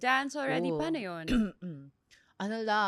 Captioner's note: clears throat